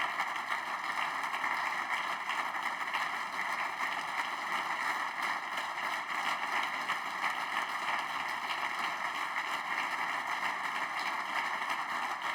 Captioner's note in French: applaudissements